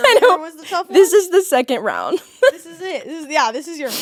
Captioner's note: laughing